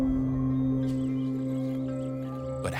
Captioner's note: birds chirping